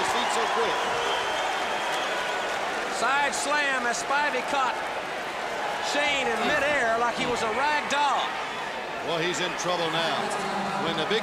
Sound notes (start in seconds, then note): 0.1 crowd chatter; 1.0 crowd cheering